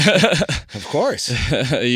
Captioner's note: laughing